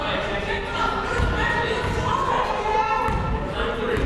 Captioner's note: crowd murmuring